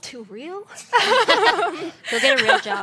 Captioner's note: laughter